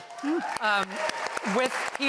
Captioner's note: applause